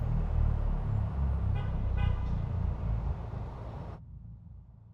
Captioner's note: car engine whirring; car horn tooting